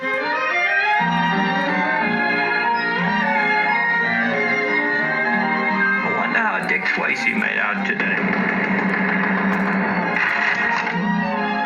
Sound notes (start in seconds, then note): 0.0 instrumental Music; 8.0 pounding On Door